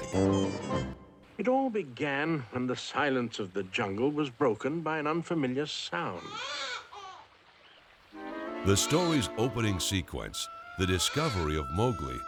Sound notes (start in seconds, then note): 6.2 baby crying